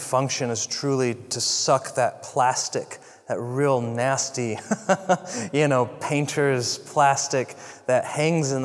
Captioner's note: laugh